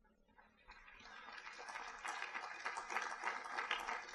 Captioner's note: audience applauds